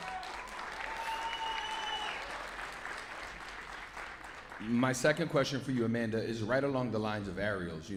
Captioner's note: cheers and applause